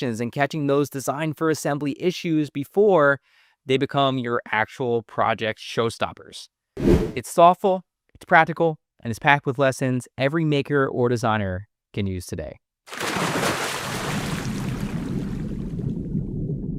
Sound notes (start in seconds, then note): 6.8 air whooshing; 12.9 water splashing